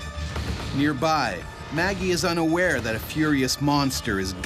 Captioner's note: voiceover